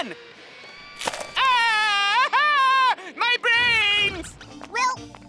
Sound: screaming

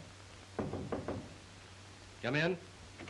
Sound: knocking at the door

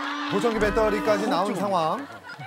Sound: boom

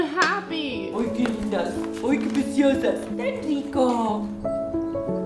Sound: in Spanish

